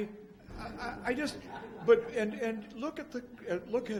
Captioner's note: laughs